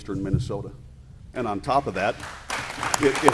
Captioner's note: applause